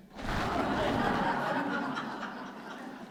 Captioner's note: laughter